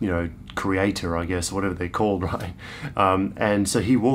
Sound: chuckles

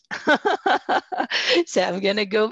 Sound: laughs

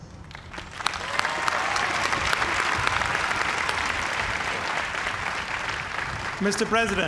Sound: cheers and applause

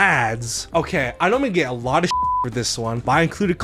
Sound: beep

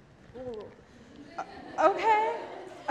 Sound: audience laughs

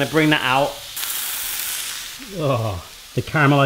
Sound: sizzling

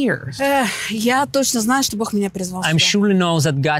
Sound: speaking in foreign language

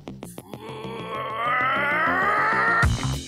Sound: primal scream of rage

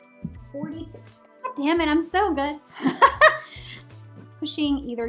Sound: laughing

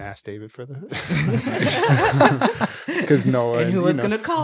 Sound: laughing

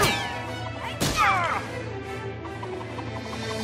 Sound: groaning

